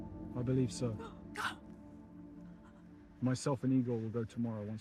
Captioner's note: Frances gasping